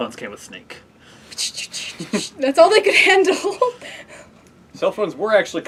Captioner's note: making game sounds